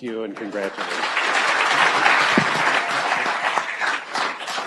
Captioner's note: audience applauds